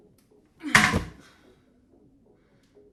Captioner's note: she gasps with effort